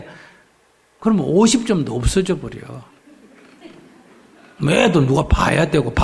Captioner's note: audience Laughter